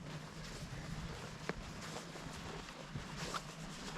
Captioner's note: foot thumping